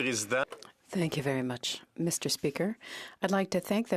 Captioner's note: speaking French